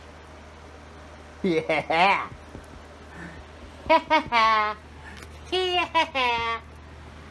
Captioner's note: laughs